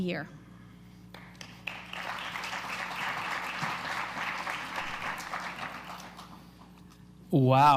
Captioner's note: applause